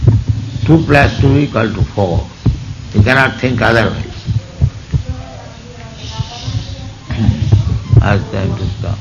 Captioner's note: people talking in background